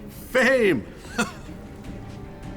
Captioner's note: chuckles